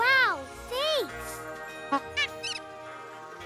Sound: squeek honk

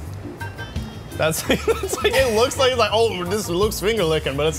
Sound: laughs

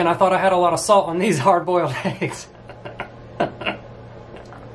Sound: laughs

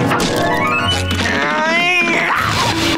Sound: grunting; laughing

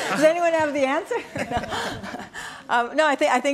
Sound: laughs

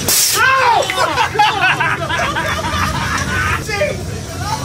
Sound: guy screams

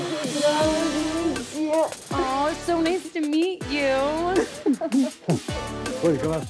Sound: laugh

